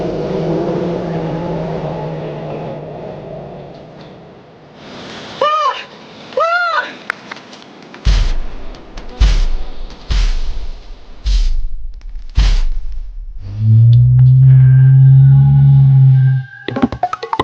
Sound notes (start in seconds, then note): 0.0 dinosaurs roaring continues; 6.4 Luna yelling continues; 8.6 upbeat chase music continues; 13.4 dinosaur roaring